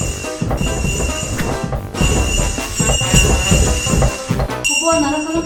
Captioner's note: ringing bells to keep bears away